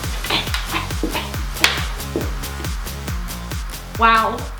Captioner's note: exaggerated grunts